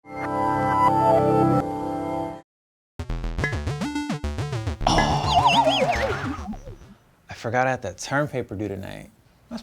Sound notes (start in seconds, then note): 0.1 dreamy music; 2.8 spacey music; 4.8 groaning